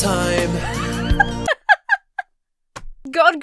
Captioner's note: Emma laughs